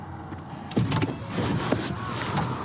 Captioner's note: car door opens